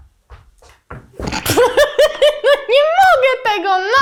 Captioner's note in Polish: Śmiech